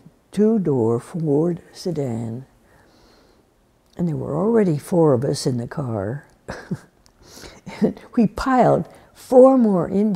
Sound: laughs

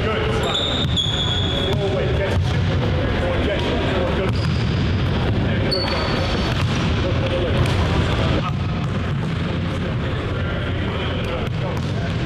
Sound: gym noises

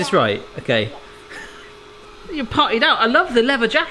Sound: laughs

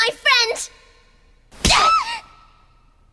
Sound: slap

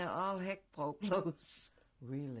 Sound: laughs

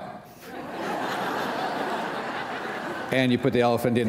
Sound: laughter

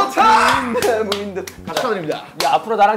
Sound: energetic applause

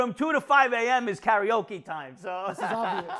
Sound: laughing

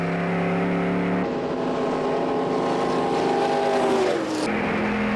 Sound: american 358 cubic inch vroom vroom sounds

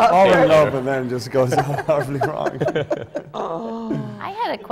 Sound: laughter

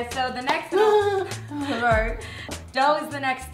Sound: Sarah laughs

